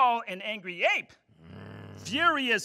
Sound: groan

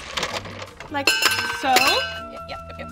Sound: ice clinks

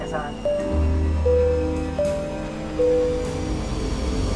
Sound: bell chiming

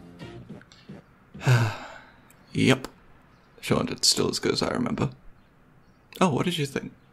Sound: sighs

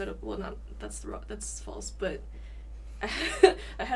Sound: laughs

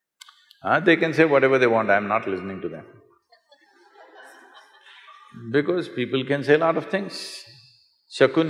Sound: few laugh

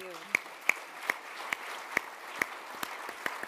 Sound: applause

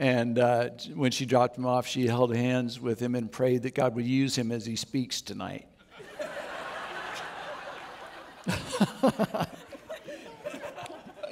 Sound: audience Applauds

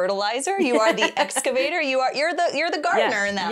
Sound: laughs

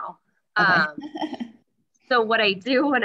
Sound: laughs

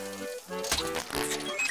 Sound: squishing

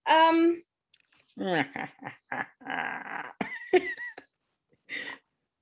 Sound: mimics evil laughter

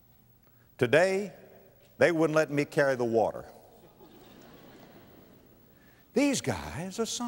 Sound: audience laughter

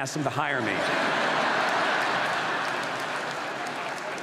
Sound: audience laughs

